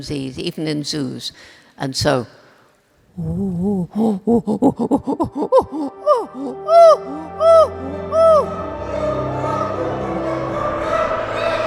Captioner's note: chimpanzee calls